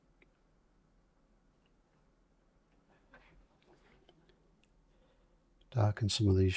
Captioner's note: silence